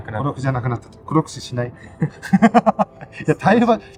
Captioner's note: laughs